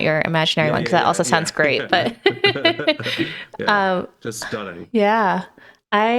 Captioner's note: both laughing